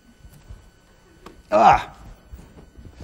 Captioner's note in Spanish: gruñidos